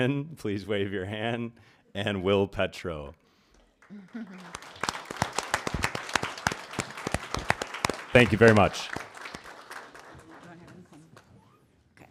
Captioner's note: applause